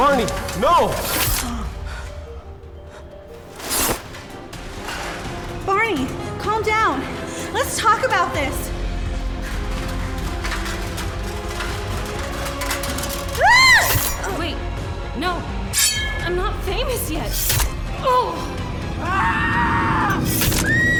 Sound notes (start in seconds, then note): 3.5 sword sheathing; 9.4 suspenseful music; 13.4 Lyla screaming; 17.1 grunts; 20.5 Tristan screaming